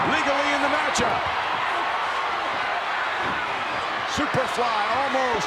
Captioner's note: crowd shout